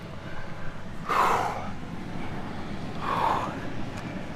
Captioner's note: intense breathing; nonstop heavy breathing